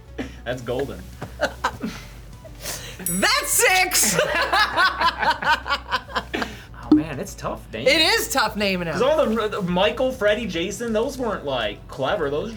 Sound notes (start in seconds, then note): 4.0 both laugh